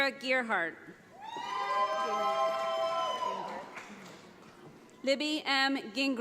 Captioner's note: audience applauds